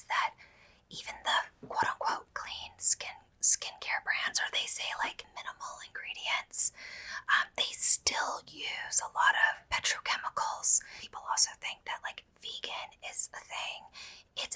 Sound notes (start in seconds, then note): none